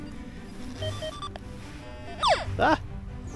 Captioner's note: squeaks